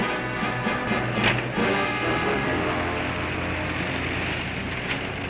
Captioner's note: bonnet banging; car engine revving